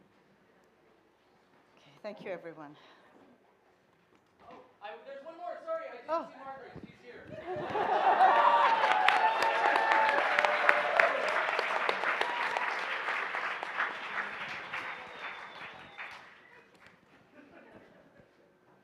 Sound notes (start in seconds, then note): 7.3 laughter; 8.5 cheering, applauding